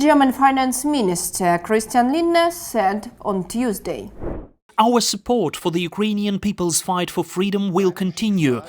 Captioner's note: Ukrainian